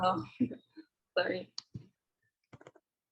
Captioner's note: giggles